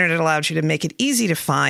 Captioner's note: none